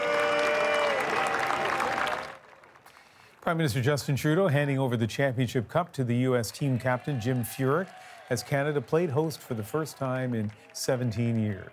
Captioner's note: applause